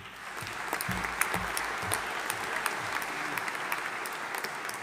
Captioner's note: audience applauding